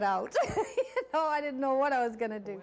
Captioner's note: laughing